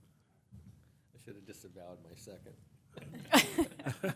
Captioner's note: laughter